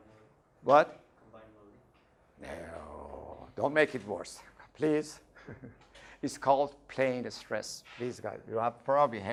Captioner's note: laughing